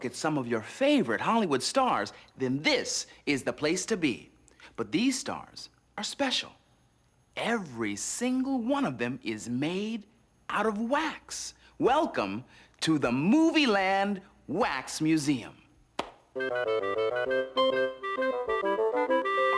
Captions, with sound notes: at some of your favorite Hollywood stars, then this is the place to be. But these stars are special. Every single one of them is made out of wax. Welcome to the Movieland Wax Museum. (claps) (playful music)